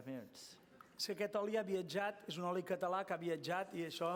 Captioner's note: non-english speech